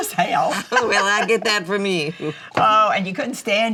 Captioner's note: mama laughs